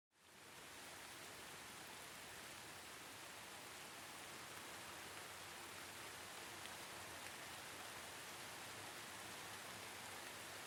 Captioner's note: rain Sounds